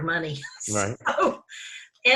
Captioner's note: laughs